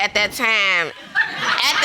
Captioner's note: audience laughing